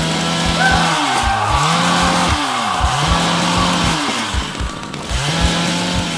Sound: horrid screams

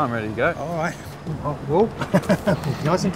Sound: laughs

